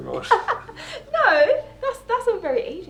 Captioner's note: laughing